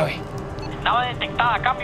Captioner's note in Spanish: Voz en la radio